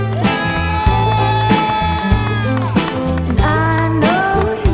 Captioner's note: group cheering